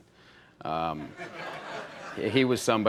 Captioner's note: audience laughs